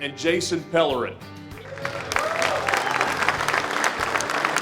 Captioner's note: applause